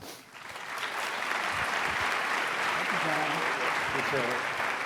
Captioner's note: applause